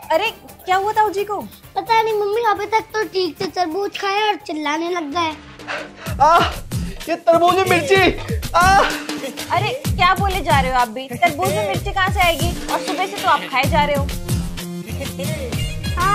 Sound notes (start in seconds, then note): 6.2 shouting; 8.6 shouting